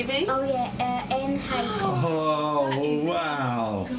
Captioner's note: doctors exclaiming